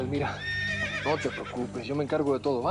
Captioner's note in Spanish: Relincho